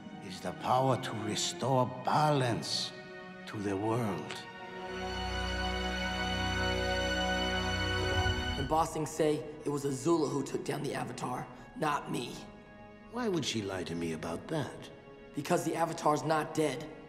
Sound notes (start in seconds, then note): none